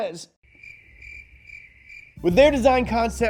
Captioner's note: crickets chirping